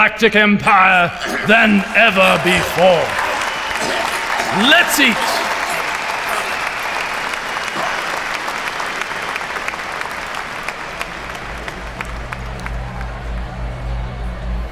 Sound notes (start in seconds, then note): 5.4 applause and coughing intensify